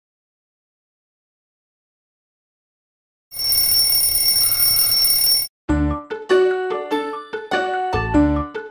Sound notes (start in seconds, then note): 3.3 alarm clock ringing; 5.7 playful music